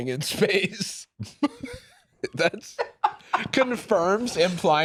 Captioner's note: both laugh